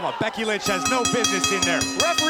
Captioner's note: bell ringing